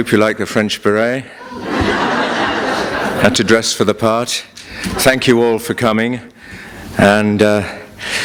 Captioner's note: laughter